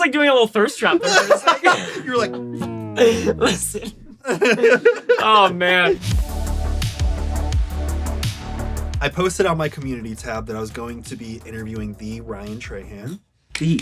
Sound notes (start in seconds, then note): 4.3 laughs